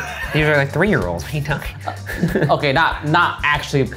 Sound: laughing; laughing

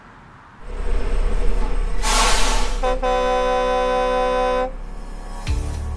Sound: large truck braking and horn sound effect

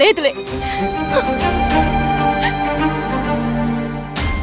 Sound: crying

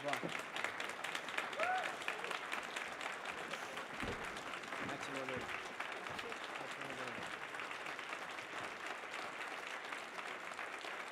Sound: applause

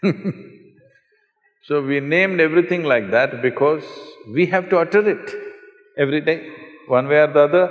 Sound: laughs; laughter

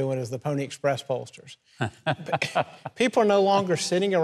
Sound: Mike laughing

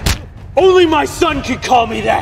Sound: skin slapping

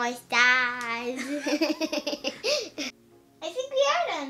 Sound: speaks spanish

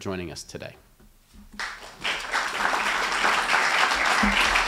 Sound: applause

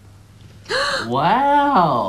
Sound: gasps

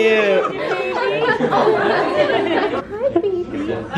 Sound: giggling

